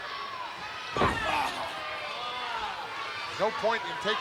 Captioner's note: Razor groans; foot thuds